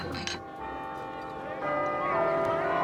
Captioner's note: bell tolls